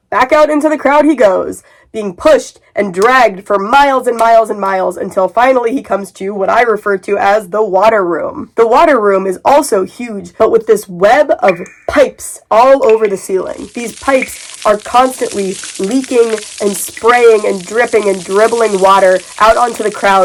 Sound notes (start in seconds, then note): 10.1 dripping sounds; 12.9 water pouring sounds